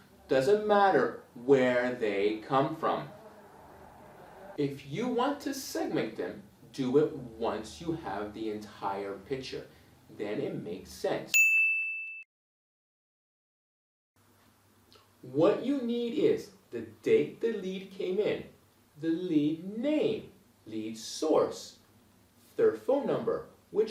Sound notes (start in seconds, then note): 11.3 bell rings